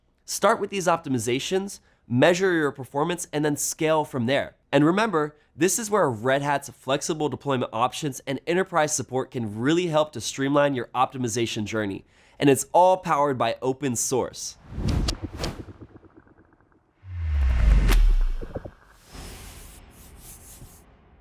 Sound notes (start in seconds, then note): 14.5 graphics whooshing